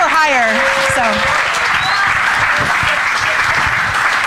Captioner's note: applause